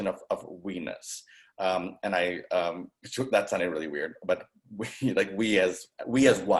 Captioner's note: chuckling